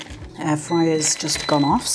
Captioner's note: air fryer beeps